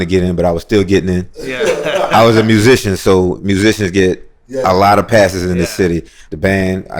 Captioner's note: laughter